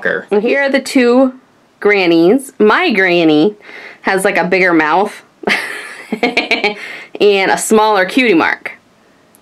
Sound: laughs

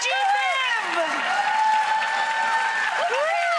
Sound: applause

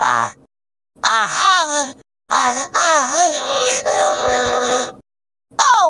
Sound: robotified moan

